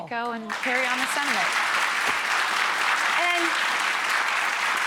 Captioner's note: audience clapping